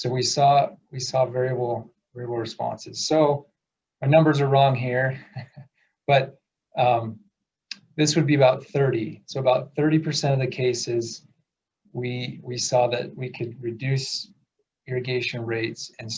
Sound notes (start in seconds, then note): 5.2 laughs